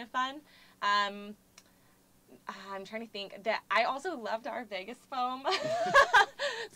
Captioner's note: laugh